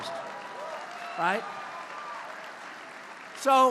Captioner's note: laughter and applause